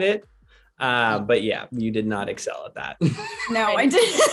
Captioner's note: laughs